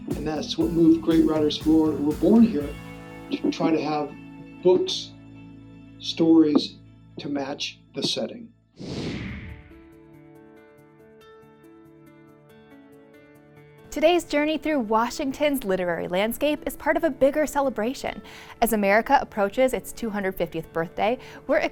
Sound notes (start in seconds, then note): 8.8 screen whooshing; 9.3 calm music